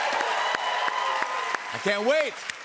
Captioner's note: cheers and applause